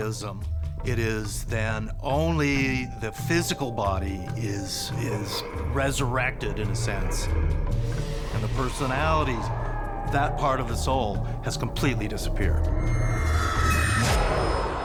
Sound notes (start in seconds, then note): 4.7 zombie moaning; 12.7 eerie music